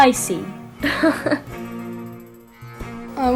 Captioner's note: Katanah laughs